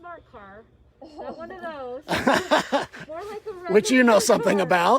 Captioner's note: laughter